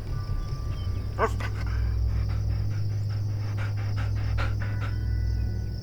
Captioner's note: Lana barking briefly and panting